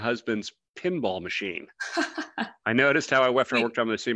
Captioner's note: laughs